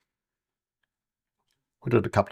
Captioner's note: silence